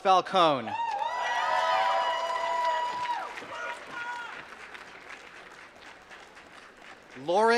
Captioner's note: applause